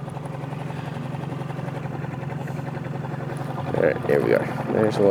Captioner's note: boat motor hums